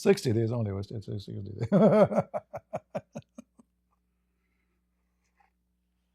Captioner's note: Ketawa